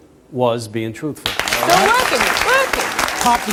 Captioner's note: audience applauds